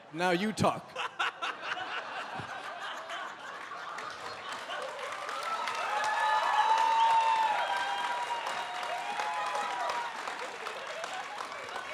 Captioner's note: cheering